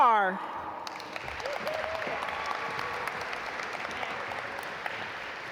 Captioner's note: audience applaud